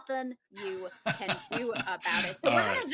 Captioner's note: laughs